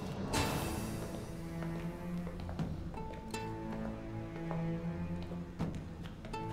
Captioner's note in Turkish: Ayak sesleri